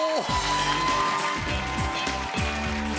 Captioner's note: cheers and applause